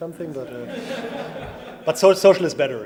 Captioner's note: audience laughs